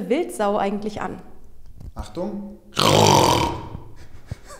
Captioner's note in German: rrrrr